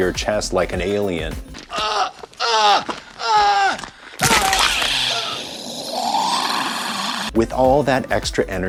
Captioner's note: groaning in pain